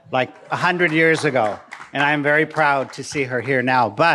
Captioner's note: audience clapping